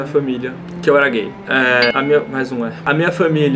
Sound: ding!

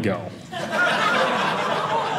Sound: audience laughing

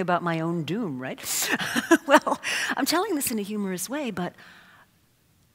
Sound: laugh

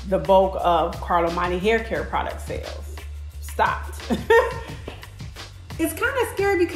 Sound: chuckles

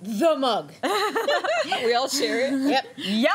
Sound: laughter

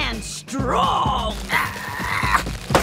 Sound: growling

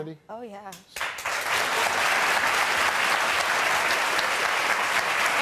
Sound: audience applauding

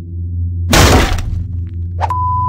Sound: boom!

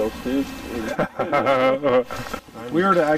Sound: laughter

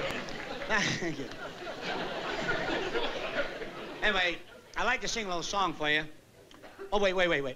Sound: laughs

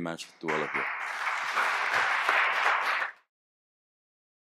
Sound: applause

